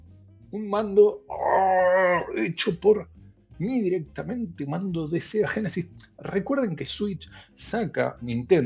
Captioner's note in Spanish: risas